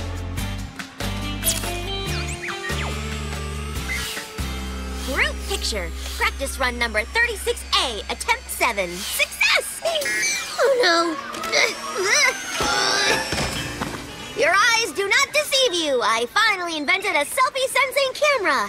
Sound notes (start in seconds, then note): 1.4 camera shutter clicks; 10.9 grunting